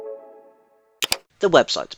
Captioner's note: click